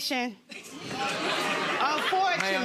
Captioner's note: audience laughing